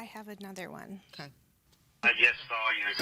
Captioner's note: on voicemail